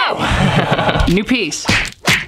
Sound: laughs

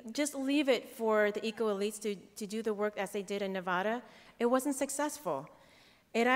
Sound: none

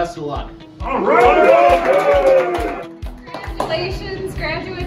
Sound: applause

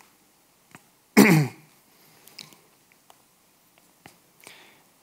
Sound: clears throat

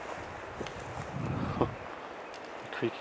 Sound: footsteps thudding

